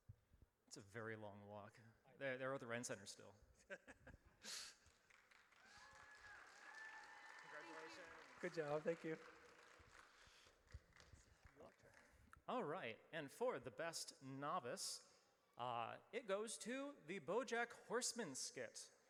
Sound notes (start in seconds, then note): 5.5 audience cheers